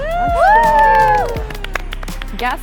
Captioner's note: group cheering; group applauding